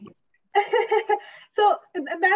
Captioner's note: chuckles